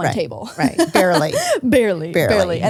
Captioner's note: laughs